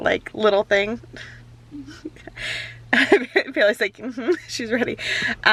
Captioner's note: laughs